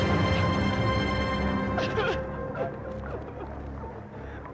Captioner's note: wanita terisak